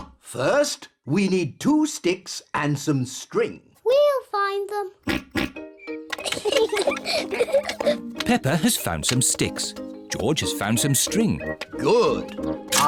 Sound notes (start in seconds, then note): 0.3 oinks; 6.1 both giggle